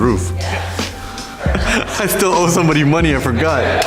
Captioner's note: laughing